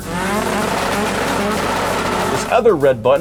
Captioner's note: engine revving